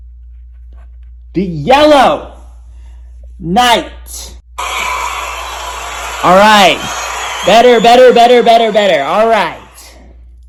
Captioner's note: Western Hemisphere cheers